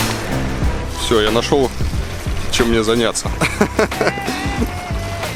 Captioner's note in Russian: смех